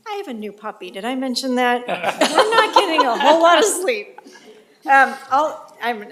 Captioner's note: laugh